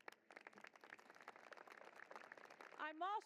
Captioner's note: applause